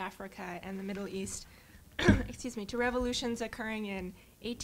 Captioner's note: cough